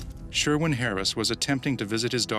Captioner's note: voiceover